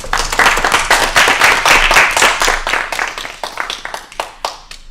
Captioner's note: applause